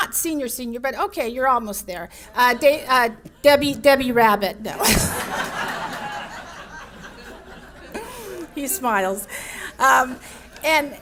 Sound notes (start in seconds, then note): 4.8 audience laughs